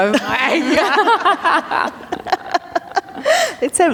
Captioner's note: laughter